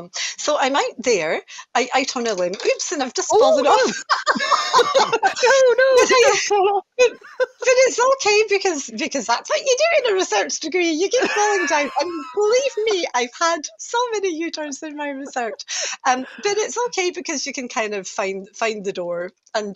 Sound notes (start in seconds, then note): 3.5 laughter